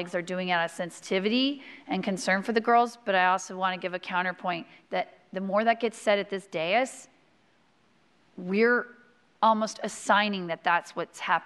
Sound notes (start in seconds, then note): none